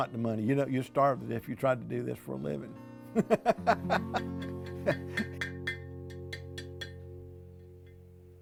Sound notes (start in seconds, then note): 3.2 laughing